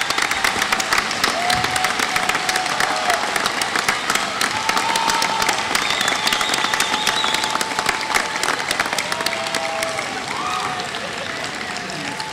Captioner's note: applause